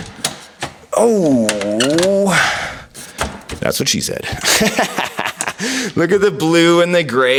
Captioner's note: laughing